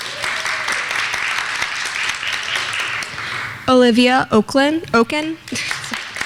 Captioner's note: clapping; clapping